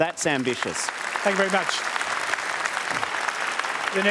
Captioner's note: applause